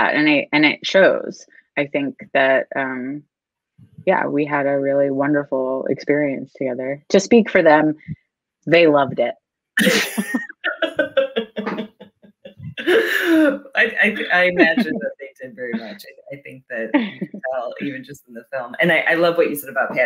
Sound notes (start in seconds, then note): 9.8 both laughing